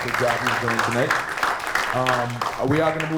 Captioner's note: applause